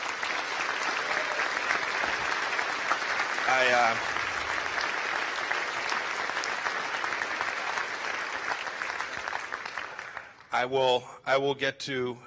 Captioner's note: applause